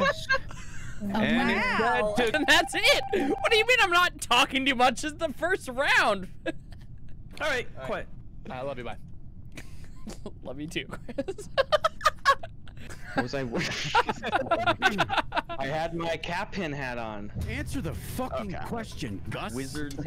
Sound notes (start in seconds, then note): 0.0 laughter; 6.4 laughter; 10.8 laughter; 10.9 laughing; 14.6 laughter